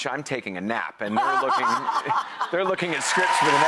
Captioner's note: laughs